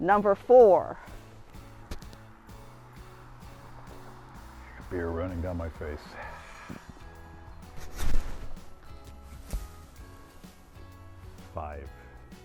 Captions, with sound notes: Number four. (upbeat music) - Beer running down my face. (sawing) (tree rustles) (upbeat music) Five.